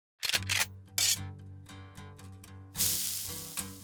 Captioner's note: gun cocks